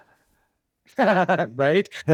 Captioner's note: laughs